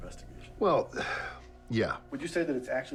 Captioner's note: sighs